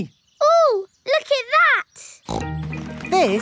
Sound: snorts

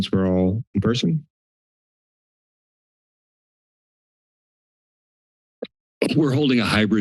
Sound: silence

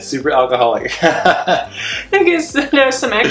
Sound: laughing

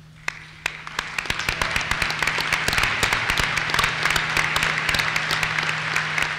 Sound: applause

